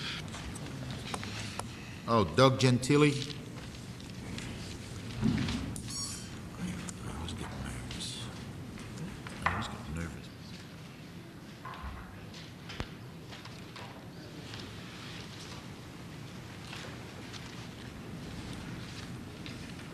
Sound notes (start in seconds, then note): 9.0 whispers